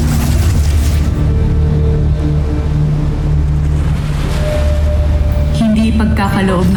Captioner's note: energy swirling; waves crashing